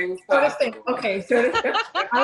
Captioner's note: laughing